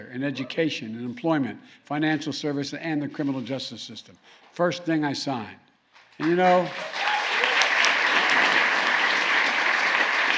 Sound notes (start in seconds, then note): 6.1 applause